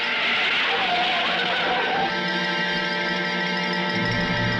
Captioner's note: tires screeching